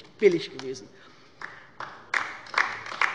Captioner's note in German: Beifall bei der LINKEN